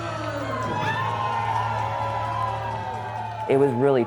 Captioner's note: howling